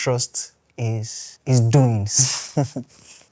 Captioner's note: laughs